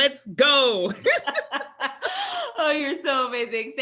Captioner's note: both laugh